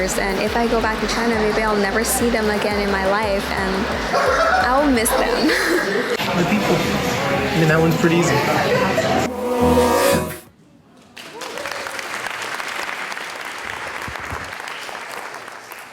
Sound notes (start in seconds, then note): 3.8 laughing; 11.1 audience applauding